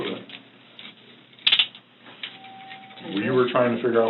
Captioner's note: handcuffs ratcheting